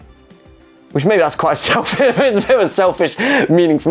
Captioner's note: laughs